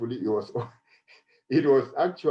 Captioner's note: chuckles